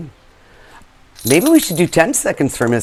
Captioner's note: bells ringing